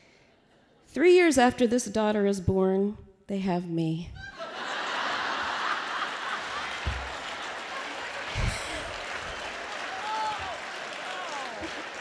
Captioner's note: laughter